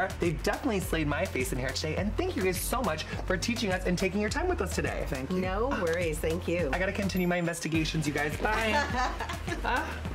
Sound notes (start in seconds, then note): 8.6 laughs